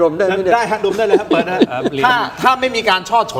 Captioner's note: laughter